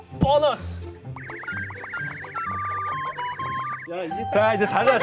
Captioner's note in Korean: 부글부글